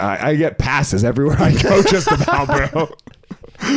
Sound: both laughing

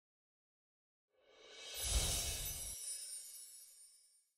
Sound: chime sounds

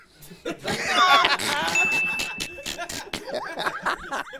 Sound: laughing

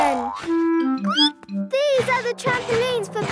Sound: squeaks

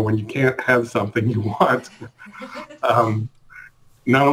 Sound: chuckles; laughs

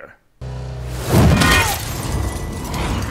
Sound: whack

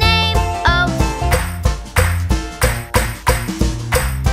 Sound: clap

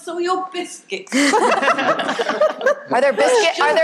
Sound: people laughing

